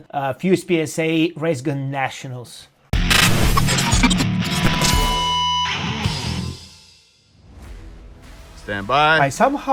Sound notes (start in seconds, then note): 2.9 lively music; 3.0 logo buzzing